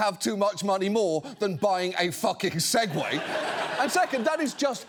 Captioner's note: audience laughs